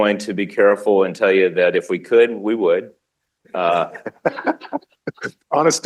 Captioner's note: laughter